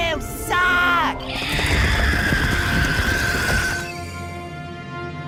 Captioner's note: screaming